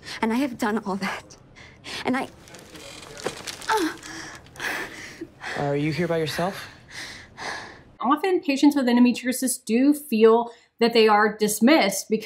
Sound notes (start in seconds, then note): 2.2 groaning